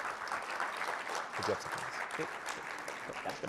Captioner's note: applause